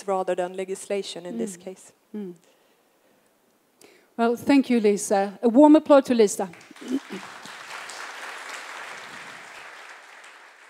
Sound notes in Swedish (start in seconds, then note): 6.4 Applause